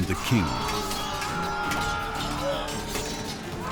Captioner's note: screams